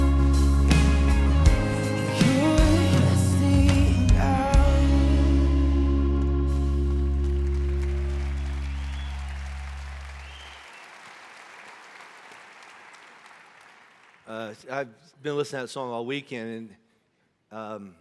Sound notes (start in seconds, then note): 6.2 congregation applauding; 6.4 congregation cheering